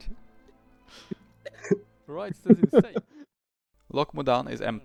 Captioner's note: haha